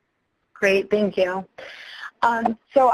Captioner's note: voiceover